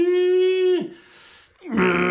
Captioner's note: grunting